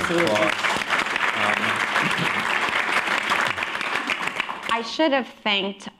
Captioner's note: applause